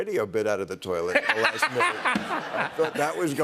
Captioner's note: laughter